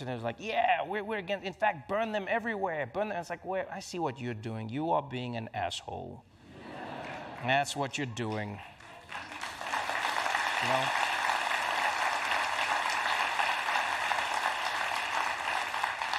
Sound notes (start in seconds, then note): 6.4 laughter; 8.9 applause